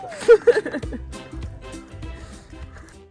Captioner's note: laughs